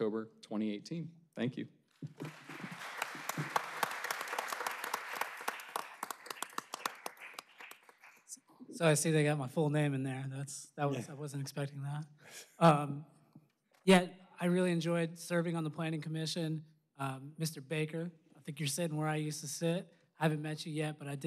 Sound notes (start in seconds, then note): 5.8 applause